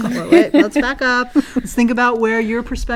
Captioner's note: laugh